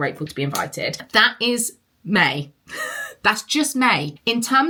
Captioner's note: laughs